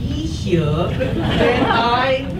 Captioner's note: audience laughs